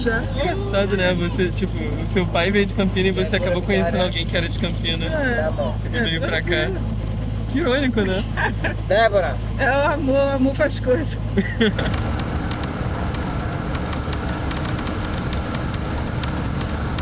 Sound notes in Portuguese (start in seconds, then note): 8.1 risadas; 11.3 risadas; 11.7 barulhos do ônibus em movimento